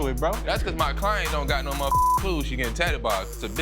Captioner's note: beep